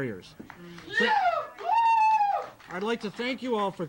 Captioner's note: audience cheering